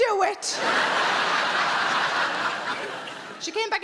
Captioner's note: audience laughing